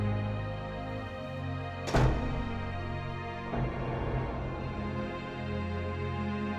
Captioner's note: door slamming